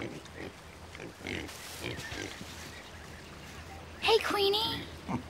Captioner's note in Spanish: Cerdos resoplando